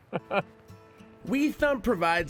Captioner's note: chuckle